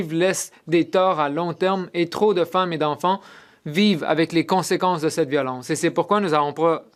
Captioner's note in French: voix de l'interprète